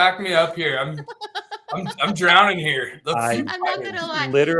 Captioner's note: laughter